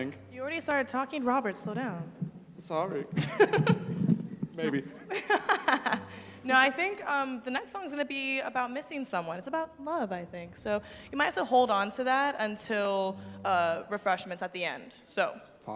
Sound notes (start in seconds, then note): 3.2 laughs; 4.6 laughter